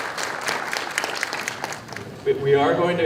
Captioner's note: applause